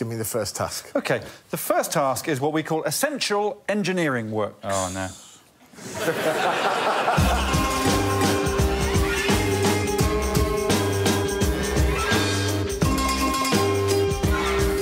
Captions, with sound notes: Okay. The first task is what we call Essential Engineering Works. Oh no. [laughter] [funky music plays]